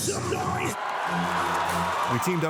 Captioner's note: crowd cheering